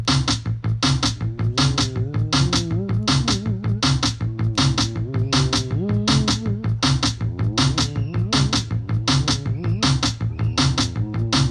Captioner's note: percussive music; vocalizations